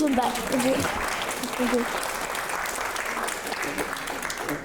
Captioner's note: audience applauding